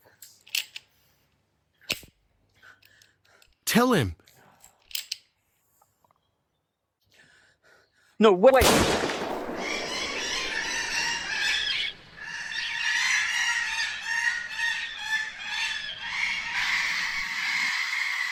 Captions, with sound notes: Tell him. No, wait. [gunshot fires] [birds squawking]